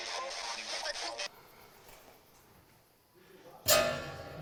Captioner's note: spirit box voice; spirit box stops; horror stinger